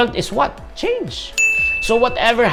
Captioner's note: chime